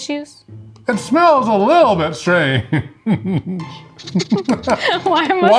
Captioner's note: laughs